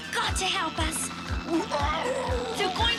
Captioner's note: yowling